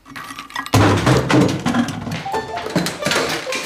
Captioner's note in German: Es poltert weiter